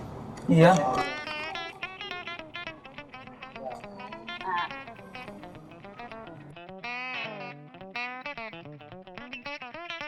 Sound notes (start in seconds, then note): 1.4 one member imitates the sound of a gecko